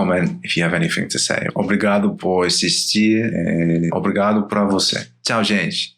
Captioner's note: in Portuguese